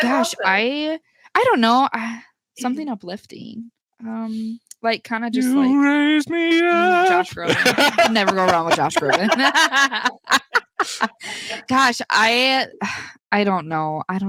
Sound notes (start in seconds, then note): 10.0 group laughs